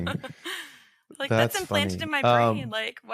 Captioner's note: chuckling